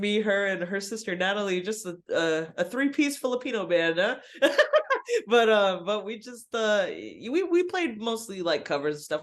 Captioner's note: laughs